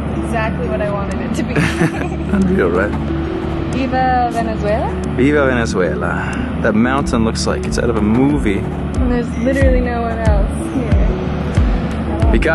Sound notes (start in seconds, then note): 1.5 both laughing